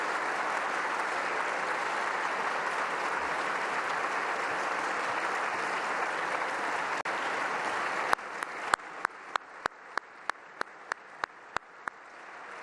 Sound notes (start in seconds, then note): 0.0 applause